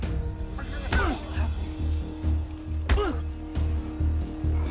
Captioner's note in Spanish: Golpes